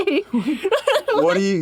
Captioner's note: laughs